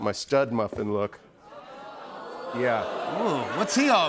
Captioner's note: audience oohs